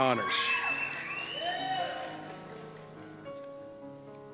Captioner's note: cheers